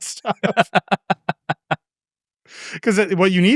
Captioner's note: both laughing